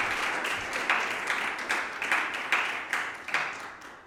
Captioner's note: applause